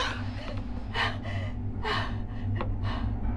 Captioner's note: heavy breathing